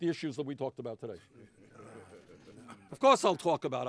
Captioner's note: collective chuckling and mumbling